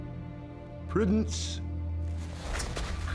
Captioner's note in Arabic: لكنة اسكتلندية